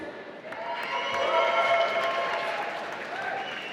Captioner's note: applause